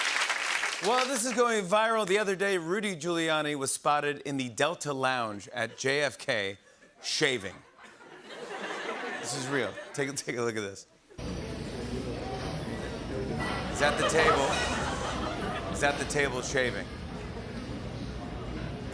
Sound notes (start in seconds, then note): 0.0 applause continues; 7.4 laughter; 13.8 laughter